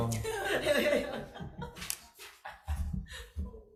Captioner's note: all laughing